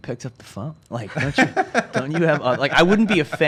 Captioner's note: laughs